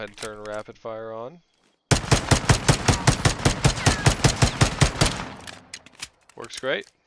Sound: rapidfire shooting

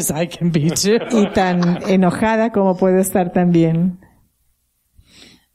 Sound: laughter

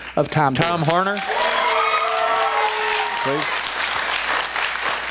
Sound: cheers, applause

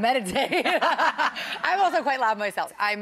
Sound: both laughing

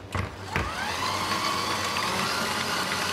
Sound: high-pitched whirring

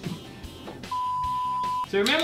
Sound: beep

